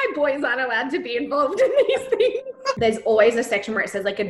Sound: gentle music; laughs

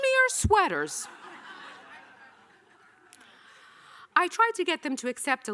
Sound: audience laughing

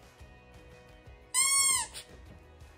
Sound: squeaker noise

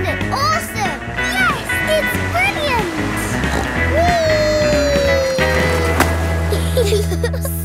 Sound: snorts; giggle

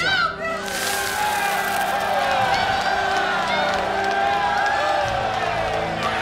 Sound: crowd cheering

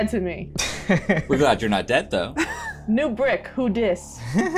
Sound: laughter

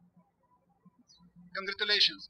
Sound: birds chirping

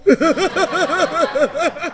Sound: laughing

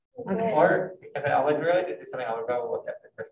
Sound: group chattering

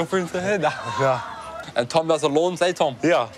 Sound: laughs

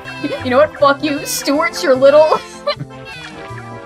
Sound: cackling

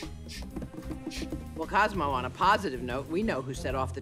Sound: sniffs

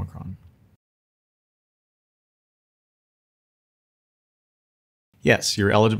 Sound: silence

